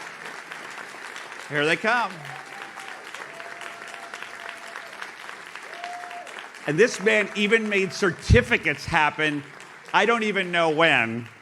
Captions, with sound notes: Here they come. (audience cheers) And this man even made certificates happen. I don't even know when.